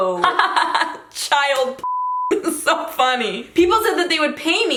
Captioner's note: laughs